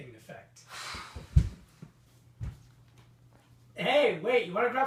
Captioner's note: scoffs in disgust